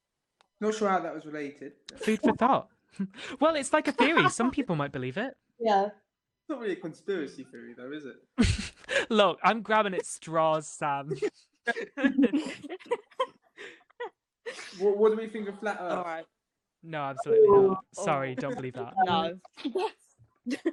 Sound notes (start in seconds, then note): 8.3 laughter